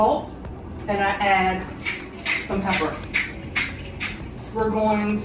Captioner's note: pepper cracking